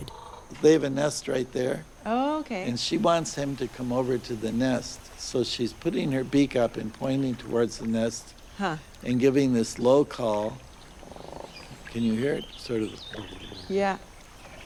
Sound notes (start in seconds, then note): 10.2 crane trills quietly; 13.1 trill immitation